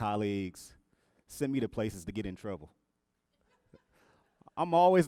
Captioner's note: audience laughs